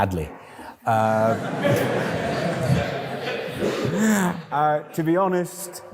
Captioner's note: laughter